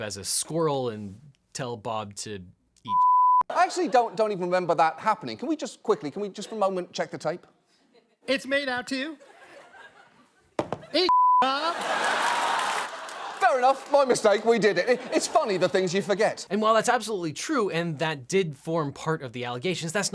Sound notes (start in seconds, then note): 9.7 audience laughing; 11.4 audience cheering